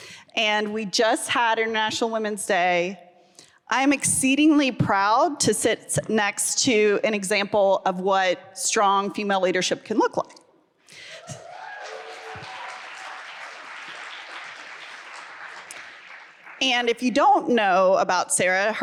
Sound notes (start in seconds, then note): 11.2 audience applauds and cheers